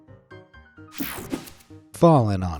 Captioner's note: screen whooshing